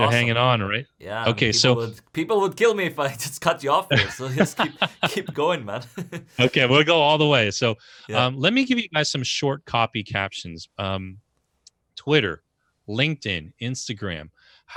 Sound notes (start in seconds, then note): 2.6 laughs